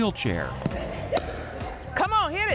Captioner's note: paddle slaps